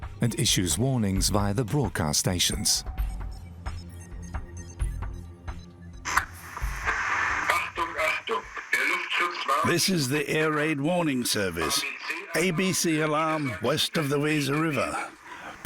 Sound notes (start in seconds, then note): 6.7 radio crackles; 9.5 voice over radio